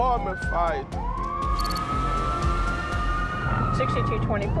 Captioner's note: ambulance siren